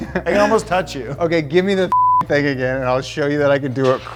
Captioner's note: beep